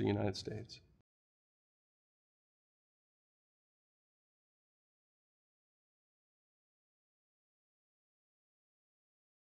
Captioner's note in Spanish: Sin audio